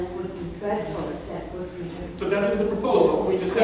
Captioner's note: speaks away from mic